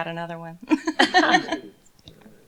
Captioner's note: laughter